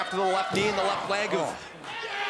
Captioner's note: crowd cheering